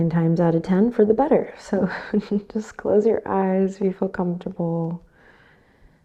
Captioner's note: chuckles